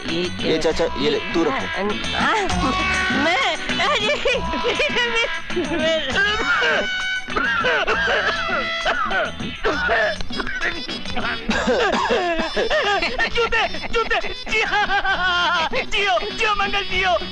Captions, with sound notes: Uncle, you wear this. - Me? (Laughs) (Coughs) Shoes! (Laughs) Bless you, Mangal.